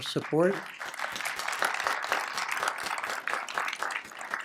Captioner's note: applause